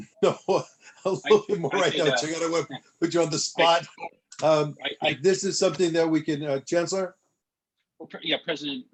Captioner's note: laughter